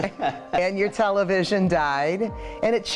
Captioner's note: laughing